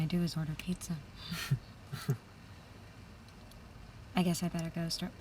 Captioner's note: both chuckle